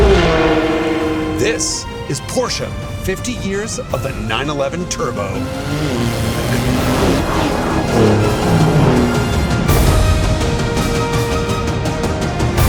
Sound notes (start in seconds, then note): 0.3 engine revs; 6.2 engines revving; 8.4 dramatic music continues